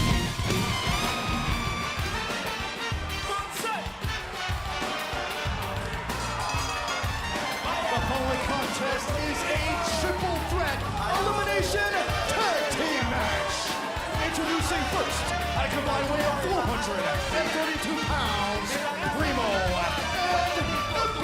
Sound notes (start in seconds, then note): 5.8 crowd cheering; 9.3 bell ringing